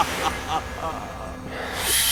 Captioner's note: desperate laughter